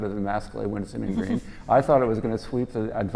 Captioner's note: laugh